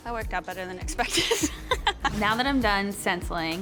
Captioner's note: laughs